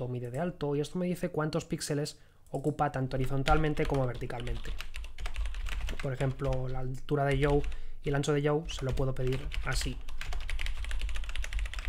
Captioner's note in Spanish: Teclea